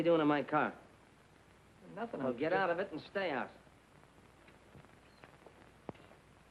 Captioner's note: none